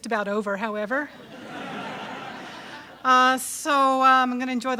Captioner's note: audience laughs